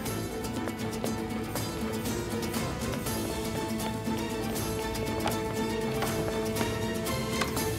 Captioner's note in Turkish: Müzik - Gerilim; Ayak sesleri